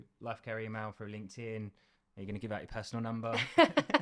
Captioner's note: laughter